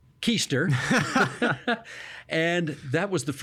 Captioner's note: laughing